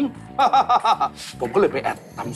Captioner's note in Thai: หัวเราะ